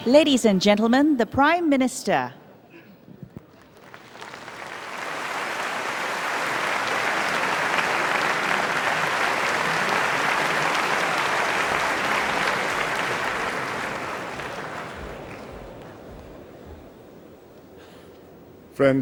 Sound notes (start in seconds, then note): 3.4 applause